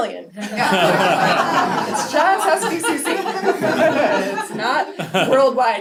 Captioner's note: laugh